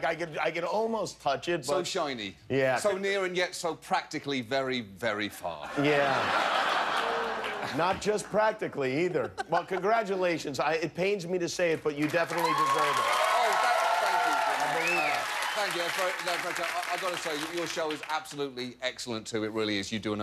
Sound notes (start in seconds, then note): 6.9 laughter; 12.0 cheers and applause